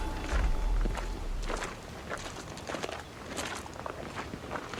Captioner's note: footsteps crunching